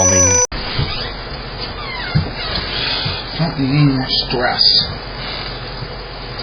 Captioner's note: door opens